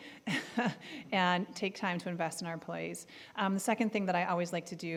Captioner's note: laughing